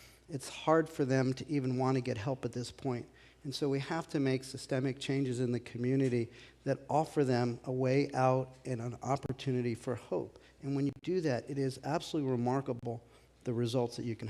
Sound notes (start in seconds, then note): none